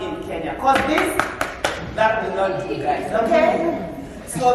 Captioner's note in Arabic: مظاهرة التصفيق